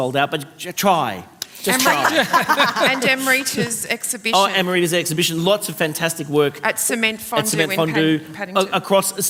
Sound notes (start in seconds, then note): 1.6 laughter